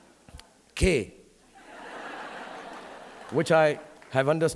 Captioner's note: audience laughing